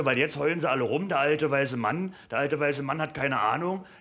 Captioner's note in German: none